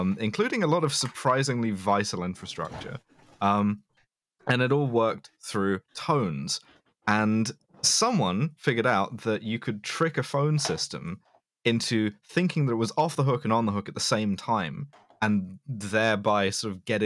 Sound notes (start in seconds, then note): none